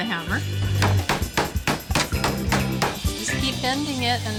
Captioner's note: hammering